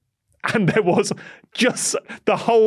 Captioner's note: laughs shakily